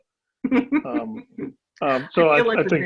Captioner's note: laughing